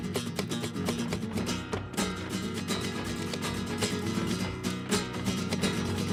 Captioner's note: heels rhythmically clicking